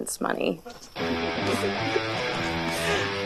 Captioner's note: laughter; heavy rock electric guitar instrumental